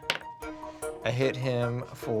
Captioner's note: rolls dice